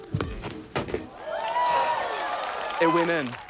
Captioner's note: cheering, applause